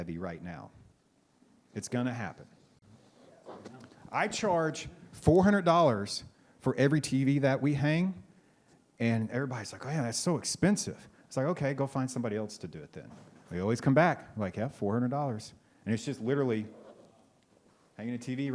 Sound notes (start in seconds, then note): none